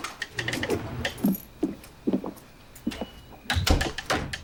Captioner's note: keys jingling; footsteps tapping; door thudding